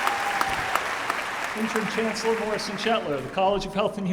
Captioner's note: applause